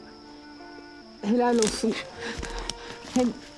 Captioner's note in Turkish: Çıtırtı sesi